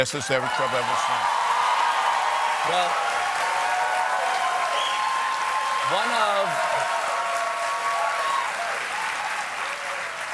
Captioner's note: cheers and applause